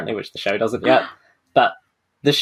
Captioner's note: gasps